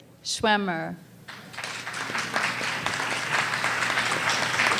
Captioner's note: audience applause